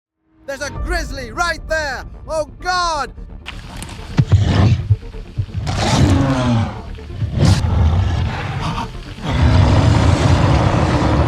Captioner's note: sound of deep growl